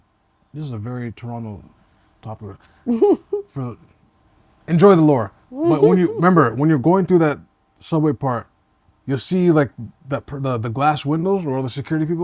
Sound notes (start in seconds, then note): 5.6 laughs